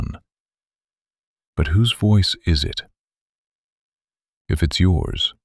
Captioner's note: pause